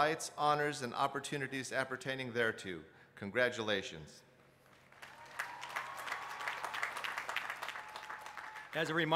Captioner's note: applause